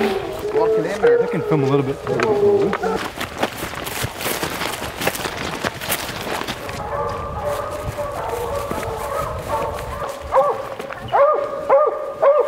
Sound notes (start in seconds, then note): 0.0 dogs continuously howling and barking; 3.6 leaves rustling; 6.6 constant dog barking